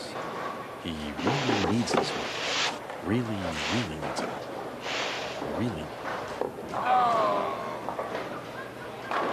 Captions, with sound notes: HE REALLY NEEDS THIS ONE. REALLY, REALLY NEEDS IT. REALLY. ( crowd moans )